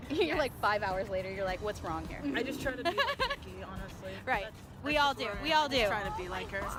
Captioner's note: laughs